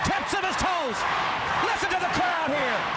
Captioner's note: crowd cheering